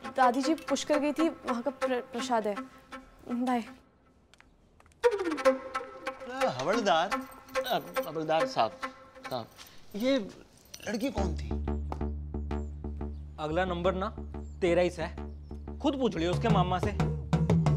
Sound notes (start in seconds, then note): none